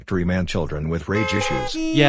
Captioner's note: car horns honking